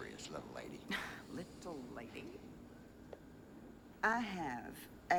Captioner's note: scoffs